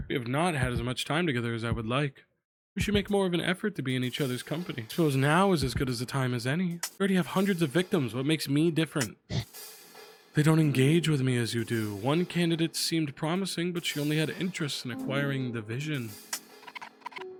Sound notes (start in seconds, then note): none